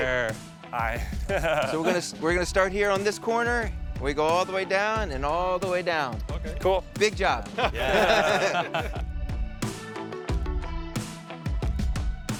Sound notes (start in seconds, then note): 1.1 chuckles; 7.5 all chuckles; 9.2 upbeat music